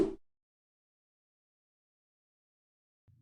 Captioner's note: whooshing